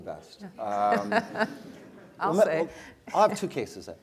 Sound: laugh

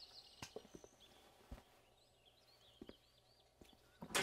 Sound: none

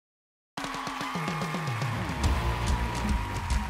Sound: audience applauds

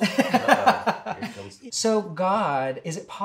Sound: laughs

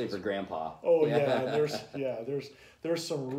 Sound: laughter

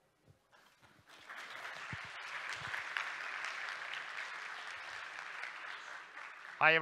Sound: applause

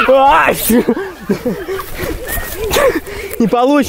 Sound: gasps of amazement

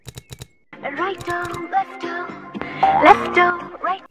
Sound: ring Tone

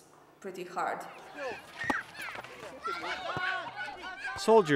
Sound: excited shouting

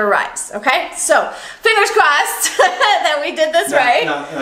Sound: laughing

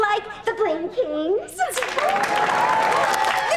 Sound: cheering

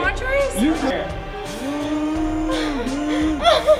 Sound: laughing

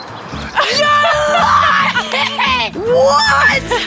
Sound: gentle upbeat music; Colleen laughs

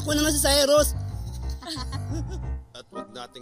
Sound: laughter

